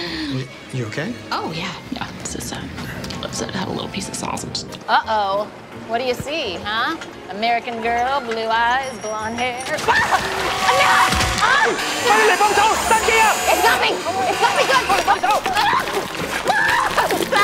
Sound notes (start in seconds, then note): 10.6 screams; 11.9 non-english shouting; 16.3 dee screams